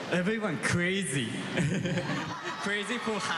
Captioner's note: laughs